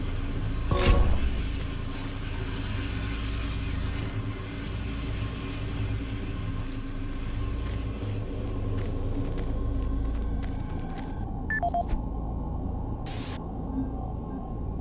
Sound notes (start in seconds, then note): 9.5 beeping